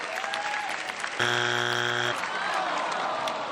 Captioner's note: buzzer